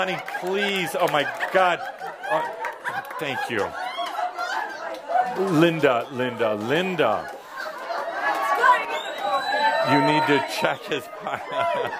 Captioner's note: lots of laughter